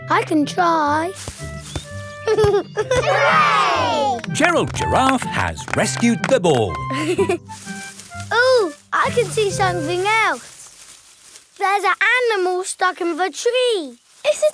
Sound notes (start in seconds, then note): 1.1 leaves rustle; 2.2 giggling; 7.2 leaves rustling